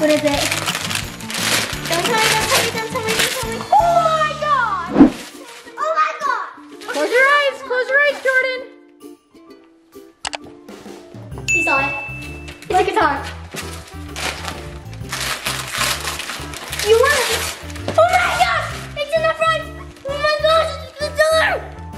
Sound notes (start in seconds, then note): 4.8 air whooshing; 10.1 happy holiday music; 10.9 clicking; 11.7 high-pitched dinging; 13.3 paper crinkling; 21.7 happy holiday music